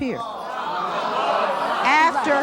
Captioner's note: audience jeering